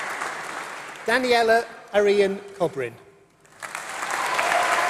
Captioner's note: applause